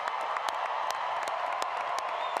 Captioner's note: applause